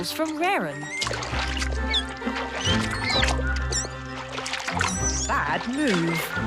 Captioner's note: water rustling; Beni squeaking; water rustling